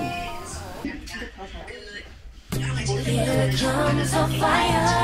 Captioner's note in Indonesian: Radio Korea diputar